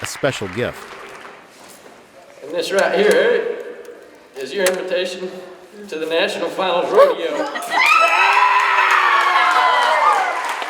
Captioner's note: crowd cheers